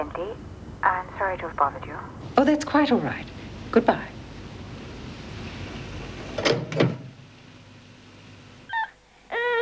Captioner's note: baby cries